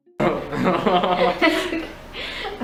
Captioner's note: laughter